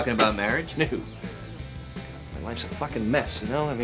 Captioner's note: laughs